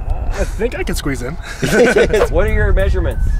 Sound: laughing

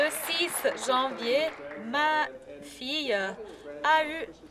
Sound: cheering and Applause

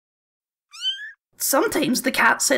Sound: meow

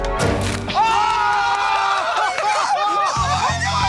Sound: cheering

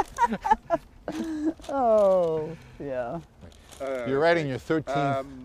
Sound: laughter

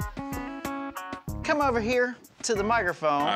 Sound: none

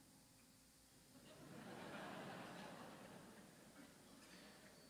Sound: audience laughs

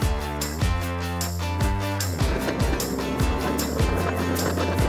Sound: machine whirs

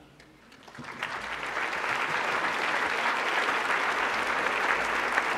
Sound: applause

